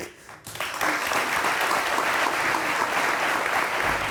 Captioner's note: audience applauding